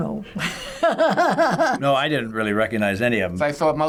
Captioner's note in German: lacht